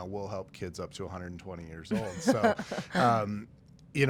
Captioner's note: laughing